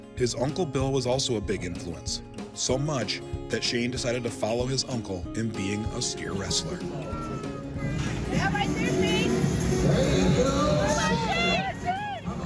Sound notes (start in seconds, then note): 8.0 background talking; 12.2 background talking; 12.2 cheering